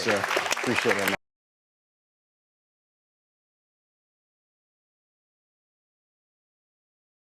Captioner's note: audience applauds